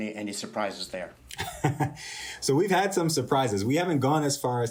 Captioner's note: laughter